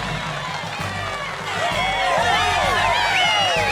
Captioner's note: people cheering